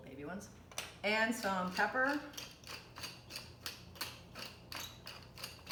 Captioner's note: grinding